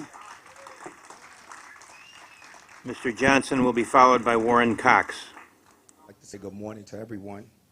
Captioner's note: applause